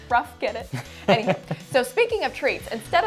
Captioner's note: laughs